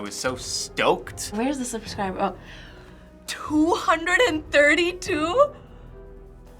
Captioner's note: gasps